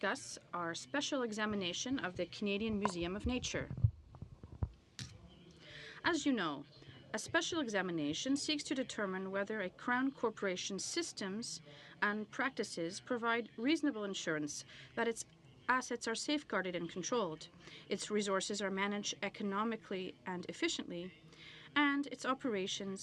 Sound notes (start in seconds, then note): 8.0 speaking in french